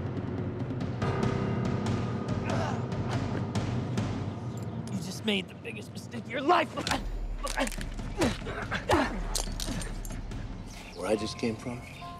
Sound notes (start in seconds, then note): 7.4 bones crack